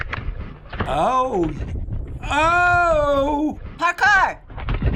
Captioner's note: impressed